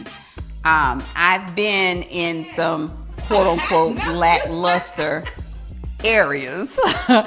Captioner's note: laughs